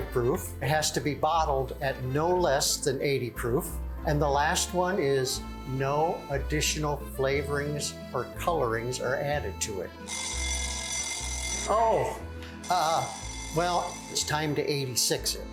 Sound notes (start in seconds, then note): 10.0 bell ringing